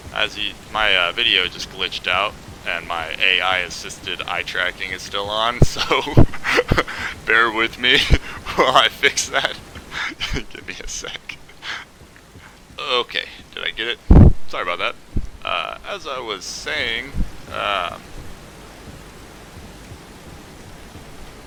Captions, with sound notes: As you - my uhh video just glitched out And my AI-Assisted eye tracking is still on soooo *laughs* bear with me while I fix that... gimme a sec OK did I get it? Sorry bout that! uhh as I was saying umm